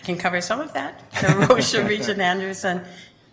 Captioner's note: chuckling